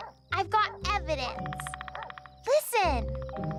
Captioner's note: barking